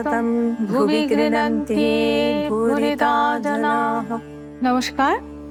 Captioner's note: chanting